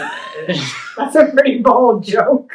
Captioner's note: laughs